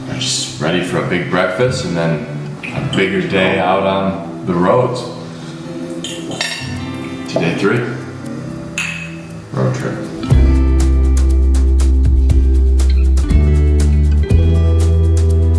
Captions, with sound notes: I'm just ready for a big breakfast and then, a bigger day out on the road. To day three. (glass clanks) Road trip. (inspiring music)